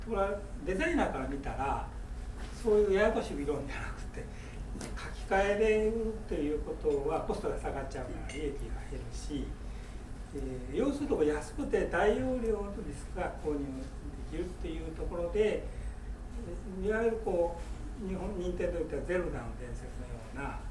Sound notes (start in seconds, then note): 0.1 speaking in foreign language; 7.1 clinking